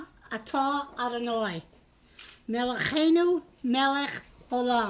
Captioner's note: hebrew prayer